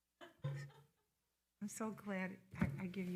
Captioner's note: person laughing